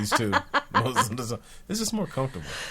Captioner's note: laughing